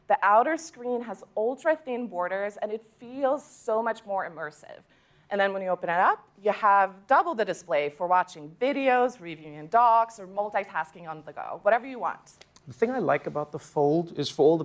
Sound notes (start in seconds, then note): none